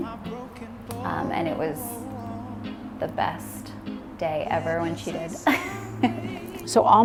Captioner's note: laughs